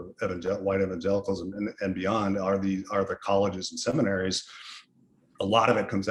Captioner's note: sniffles